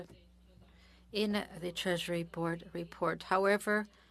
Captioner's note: speaking French